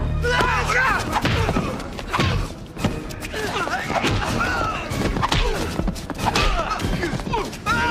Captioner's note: grunts; thuds